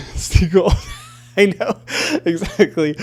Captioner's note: laughing